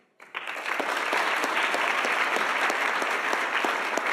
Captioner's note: audience applauding